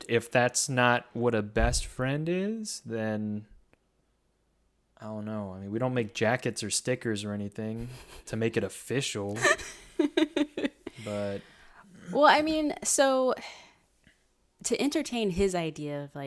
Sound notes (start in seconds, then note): 9.3 chuckles; 9.3 laughs